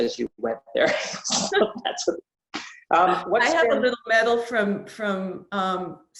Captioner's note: laughs